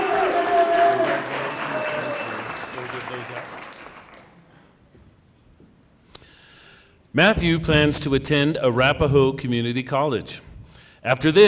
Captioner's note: cheering and applause